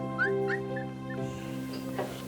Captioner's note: dogs whimpering; uplifting music